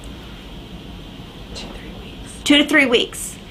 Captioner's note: whispering